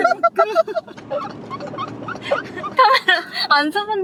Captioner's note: laughing